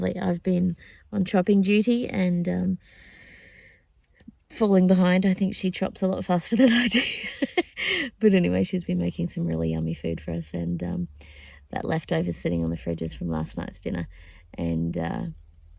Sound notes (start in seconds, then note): 7.0 laughing